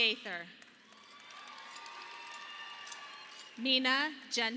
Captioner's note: audience applauding